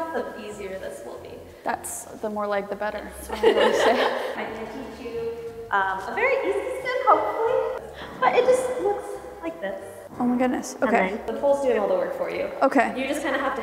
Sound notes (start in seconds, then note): 4.0 laughing